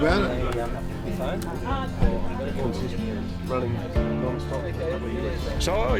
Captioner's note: men chatting; upbeat music